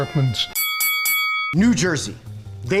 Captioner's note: dinging